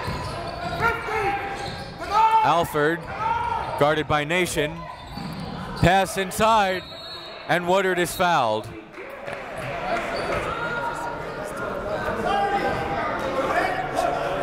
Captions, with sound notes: Alford, guarded by Nation. Pass inside. (whistle) And Woodard is fouled.